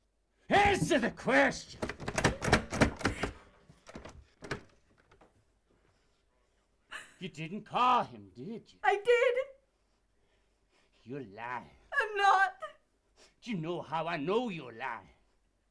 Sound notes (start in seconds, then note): 1.6 door handle rattling; 8.0 Tina whimpering